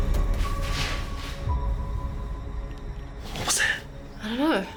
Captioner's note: tense music; paper rustling